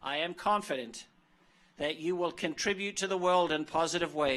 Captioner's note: none